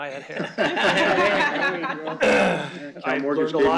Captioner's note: laughter